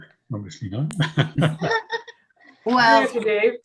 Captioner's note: laughing